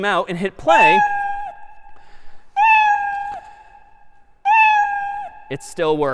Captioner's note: میو زدن